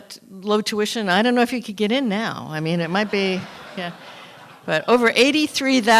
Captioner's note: laughter